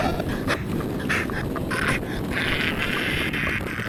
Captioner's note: groaning